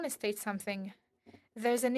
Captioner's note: speaking French